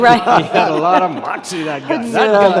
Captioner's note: all laughing